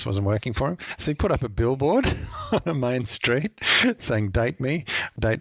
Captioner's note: laughs